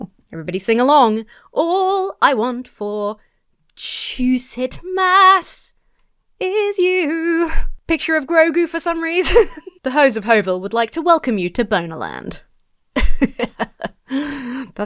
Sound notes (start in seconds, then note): 9.2 laughs; 12.9 laughs haughtily